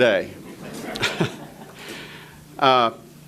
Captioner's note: audience laughter